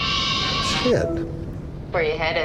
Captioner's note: dramatic music ringtone; phone swooshing